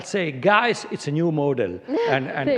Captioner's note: laughter